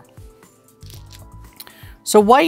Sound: stones rattling

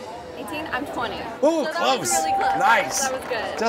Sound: bell rings

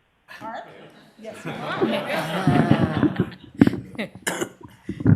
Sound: applause

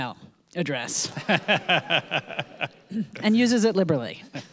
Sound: audience laughing

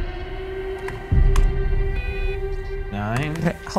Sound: keyboard clicks; device beeps

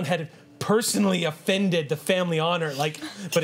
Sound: none

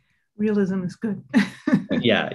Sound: laughs

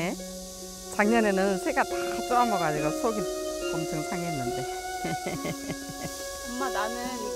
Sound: laughs

